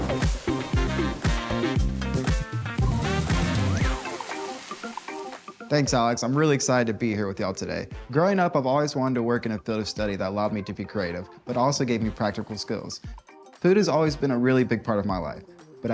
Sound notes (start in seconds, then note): 0.0 fire hissing; 3.1 food sizzling